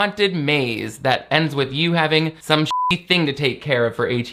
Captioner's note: beep